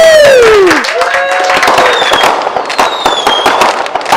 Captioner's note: fireworks